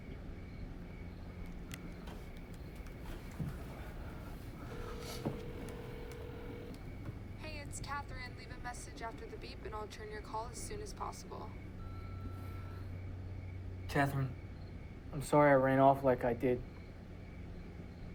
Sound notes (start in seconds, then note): 4.4 phone ringing; 11.8 beep